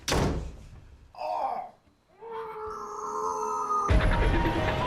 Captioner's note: moaning